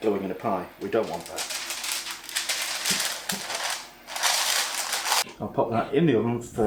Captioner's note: paper crinklin and scrunchin